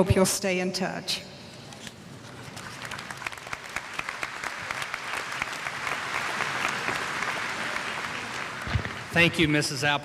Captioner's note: applause